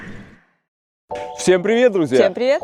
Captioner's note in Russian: крик